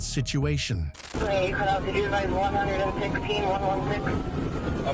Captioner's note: radio chatter